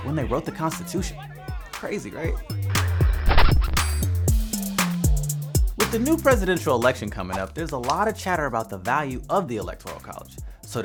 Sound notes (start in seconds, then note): 2.7 record scratch; 2.8 chill music beats